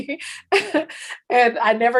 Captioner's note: laughs